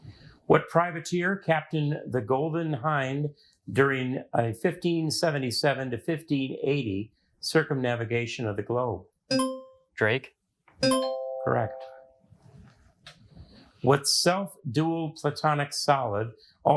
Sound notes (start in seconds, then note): 10.8 bell dings; 10.8 buzzer rings